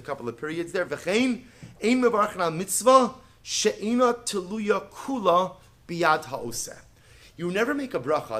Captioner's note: Hebrew